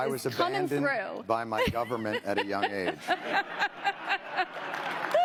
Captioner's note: laughter